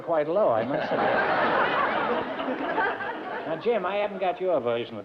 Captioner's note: laughter